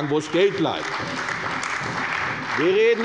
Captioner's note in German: Beifall bei der CDU